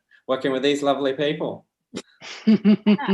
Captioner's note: laughter